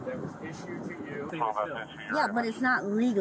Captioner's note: radio chatter